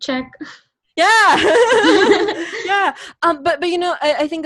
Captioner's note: laughs